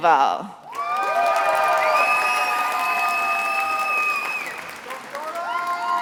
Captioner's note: attendees applauding and cheering